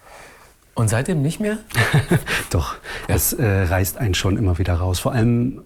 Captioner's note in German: lacht